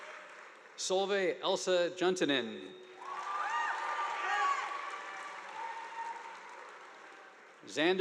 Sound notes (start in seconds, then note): 0.0 audience applauding; 0.0 students cheering; 2.9 audience applauding